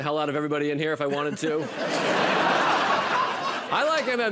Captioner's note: laughter